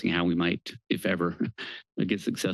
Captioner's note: chuckles